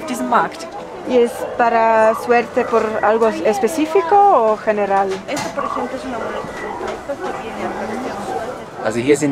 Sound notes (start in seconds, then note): 1.1 in Spanish